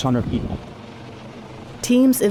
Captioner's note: helicopter